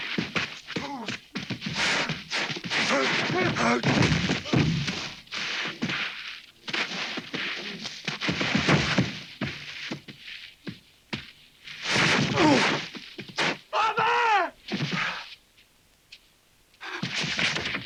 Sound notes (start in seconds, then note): 9.4 hooves thudding; 13.7 Pedro groaning